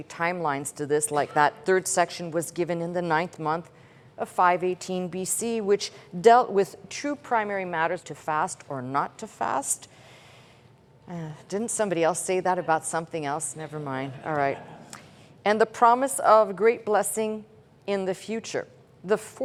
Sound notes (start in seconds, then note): 14.0 chuckling